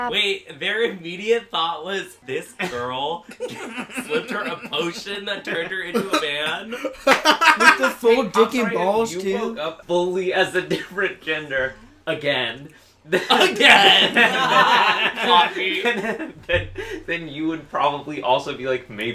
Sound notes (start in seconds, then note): 13.2 everyone laughs